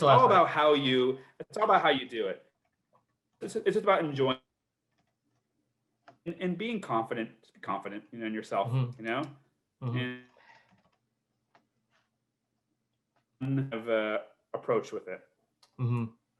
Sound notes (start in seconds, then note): 4.7 sound cuts out